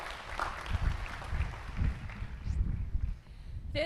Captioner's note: applause